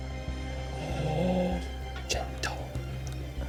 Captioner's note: gasps